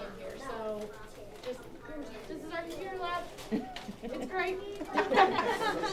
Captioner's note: laughing